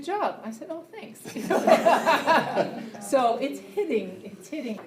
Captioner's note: laughter